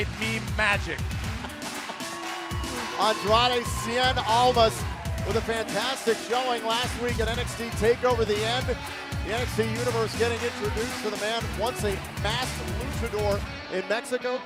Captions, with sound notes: WE MADE MEAN MAGIC. [LAUGHTER] >> ANDRADE CIEN ALMAS WITH A FANTASTIC SHOWING LAST WEEK AT NXT TAKEOVER THE END. THE NXT UNIVERSE GETTING INTRODUCED TO THE MAN. ONCE A MASKED LUCHADOR IN